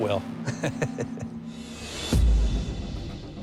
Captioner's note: laughs